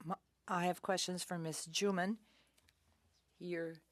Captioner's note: speaking in French